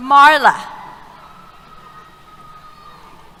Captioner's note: cheers